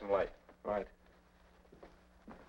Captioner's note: pat